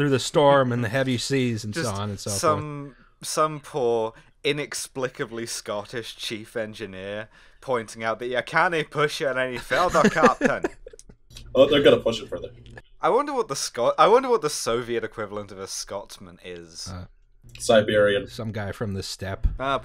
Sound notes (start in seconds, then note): 9.5 laughter